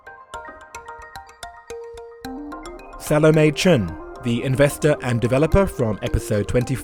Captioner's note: voiceover